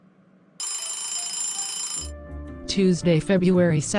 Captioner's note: school bell